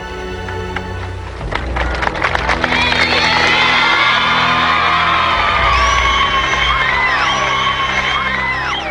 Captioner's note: applause